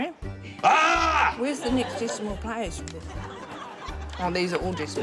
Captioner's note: yells